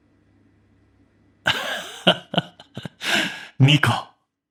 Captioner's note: laughter